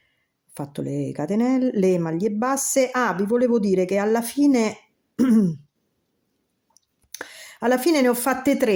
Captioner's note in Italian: schiarire la voce